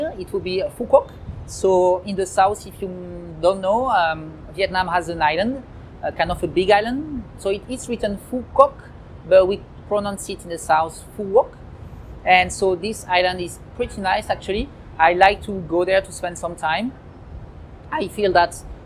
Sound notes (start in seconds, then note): 9.6 southern vietnamese accent